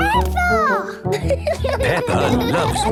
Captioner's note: laughing